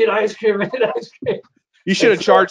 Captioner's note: laughs